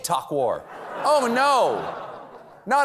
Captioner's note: laughter